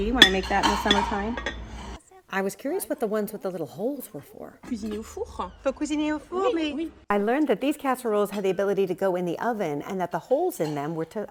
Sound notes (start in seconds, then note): 5.3 women speaking French